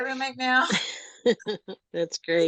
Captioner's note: panel laughs